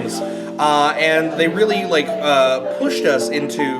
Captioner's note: giggles